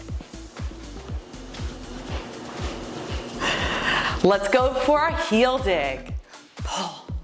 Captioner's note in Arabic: زفير